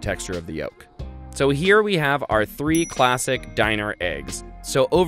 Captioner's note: dings